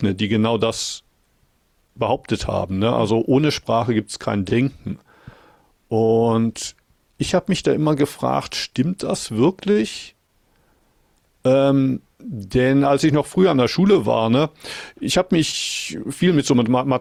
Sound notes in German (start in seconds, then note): none